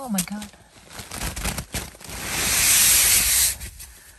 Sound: sound of snow sliding down the tent

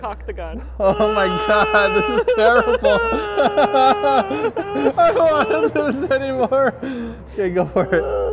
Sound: nervous noises; nervous laughter

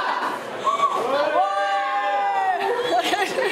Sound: gasping and cheering

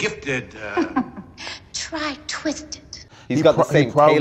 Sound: laughing

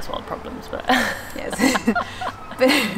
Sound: both laugh

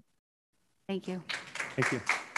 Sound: clapping

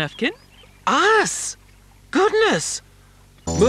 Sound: surprised

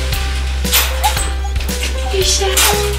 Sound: gentle music; lock clacks

